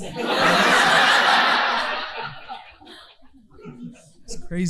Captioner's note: audience laughing